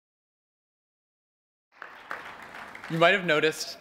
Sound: applause

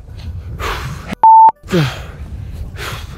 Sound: beep

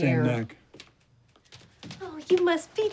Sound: footsteps approaching

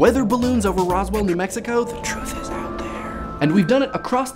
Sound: whispering

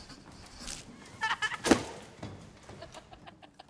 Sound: kids laughing

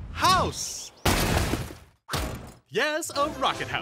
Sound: crash

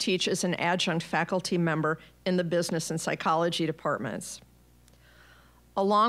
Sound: none

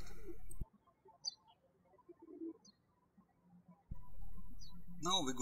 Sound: birds chirping

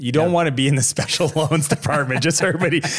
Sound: laughs

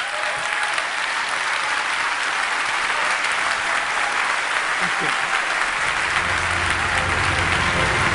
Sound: applause

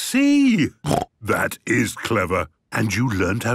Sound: snort

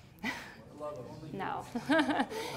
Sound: chuckles

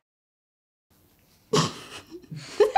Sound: laughing

